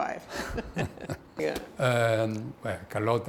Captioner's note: both laugh